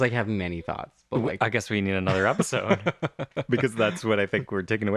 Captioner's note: laugh